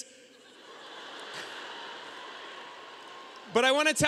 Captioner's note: audience laughing